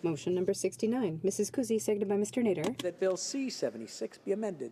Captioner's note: speaking French